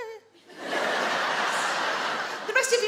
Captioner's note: audience laugh